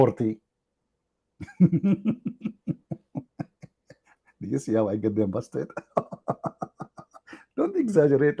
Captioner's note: Ketawa